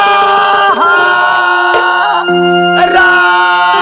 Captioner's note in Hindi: चीखने की आवाज़